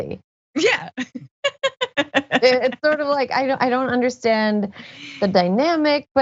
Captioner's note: laugh